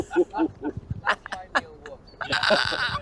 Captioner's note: laughing